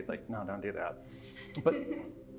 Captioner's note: offscreen person laughs